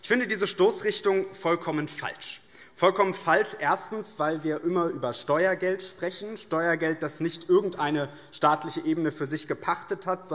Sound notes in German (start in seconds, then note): none